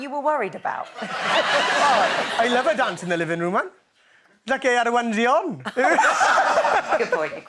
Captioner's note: laughs